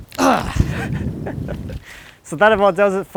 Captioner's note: cracking; grunts; laughs